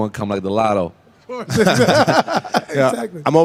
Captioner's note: laughing